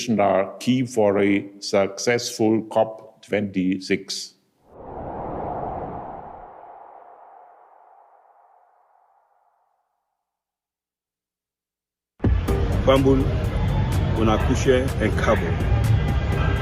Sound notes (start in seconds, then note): 4.6 wind blowing; 12.9 speaking in foreign language